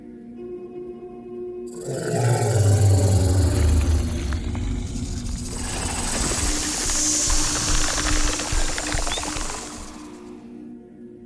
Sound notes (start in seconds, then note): 2.0 snake growls; 6.2 snake hisses; 6.2 snake rattles